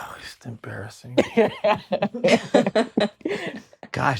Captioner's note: laughter